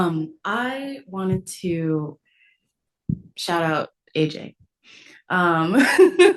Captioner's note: laughs